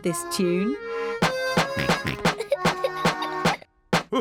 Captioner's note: snorts; laughs